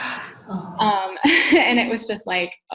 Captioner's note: gasps